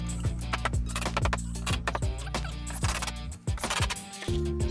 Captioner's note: gentle music; drill whirring